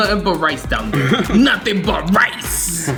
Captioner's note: laughs